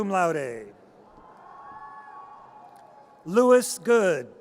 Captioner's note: audience cheers